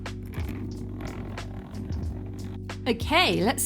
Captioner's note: zip